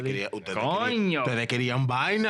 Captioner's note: speaking In Foreign Language